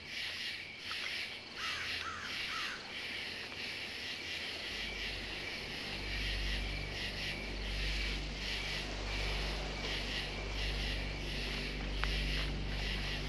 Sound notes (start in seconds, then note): 1.6 bird squawking; 4.6 suspenseful music